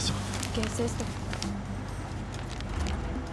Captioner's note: speaking spanish